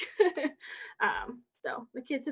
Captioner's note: chuckles